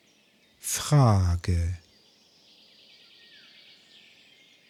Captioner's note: german